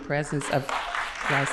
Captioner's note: applause